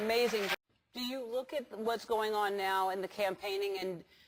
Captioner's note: applause